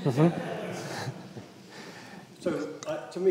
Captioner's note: audience laughs